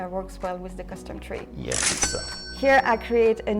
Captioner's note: cash register cha-ching